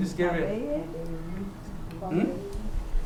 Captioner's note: non-english